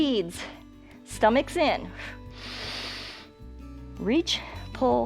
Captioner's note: exhales and inhales